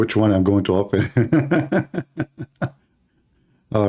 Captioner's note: Ketawa